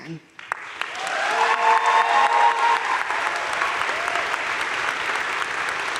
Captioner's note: crowd cheering and applauding